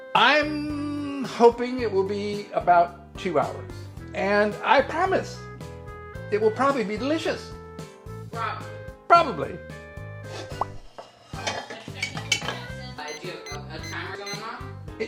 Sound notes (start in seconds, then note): 9.9 buoyant music; 13.1 timer ringing